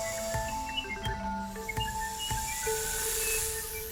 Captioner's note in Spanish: pájaros trinando